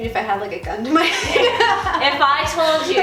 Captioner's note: laughing